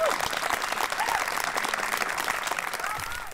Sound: applause

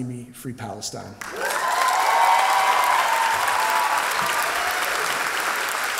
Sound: cheers and applause

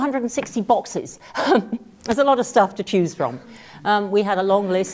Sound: laugh

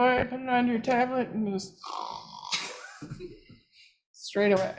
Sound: snores

